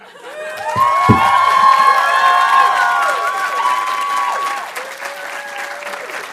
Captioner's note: audience cheering and applauding